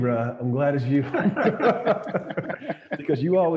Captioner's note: everyone laughing